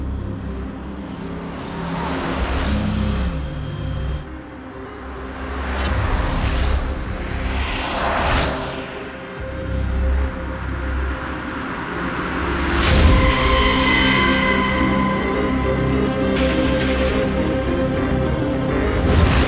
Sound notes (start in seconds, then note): 0.2 car Sound; 6.0 engine Sound